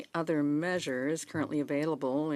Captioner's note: speaking in French